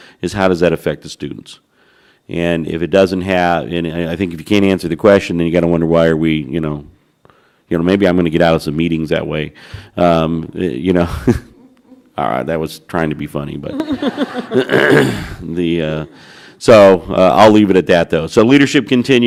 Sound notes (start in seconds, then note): 11.0 laughter